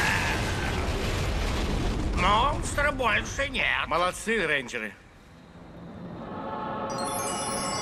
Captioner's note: none